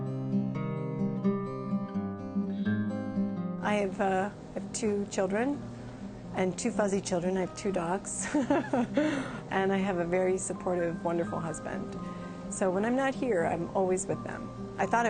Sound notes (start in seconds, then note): 8.2 laughs